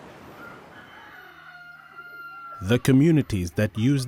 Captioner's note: cock crows